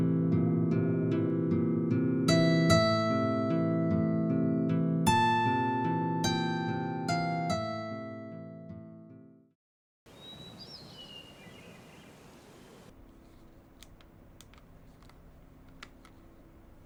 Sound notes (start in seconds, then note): none